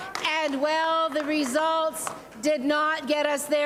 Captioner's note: cheering